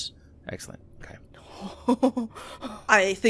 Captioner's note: laughs